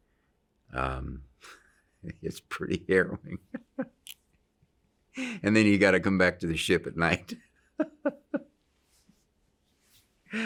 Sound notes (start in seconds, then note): 3.0 laughs; 7.8 laughs